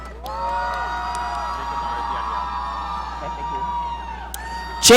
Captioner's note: audience cheering